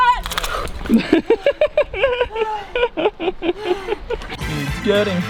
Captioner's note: man 1 Laughing